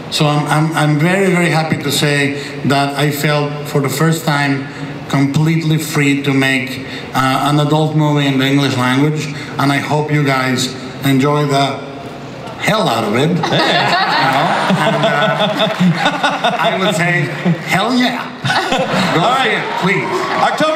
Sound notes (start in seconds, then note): 13.4 everyone laughs